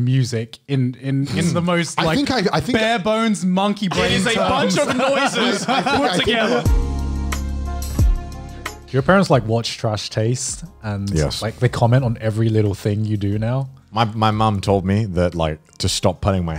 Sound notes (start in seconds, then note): 3.9 laughs; 6.4 upbeat music